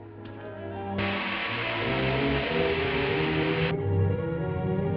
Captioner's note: dramatic music; gas hissing